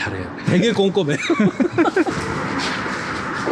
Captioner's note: awkward laugh